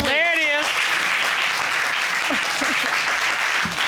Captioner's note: applause